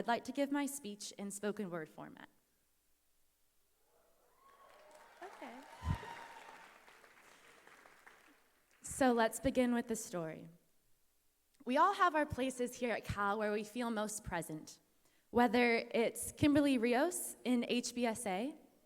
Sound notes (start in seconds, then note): 4.4 applause